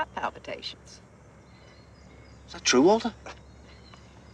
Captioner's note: scoffing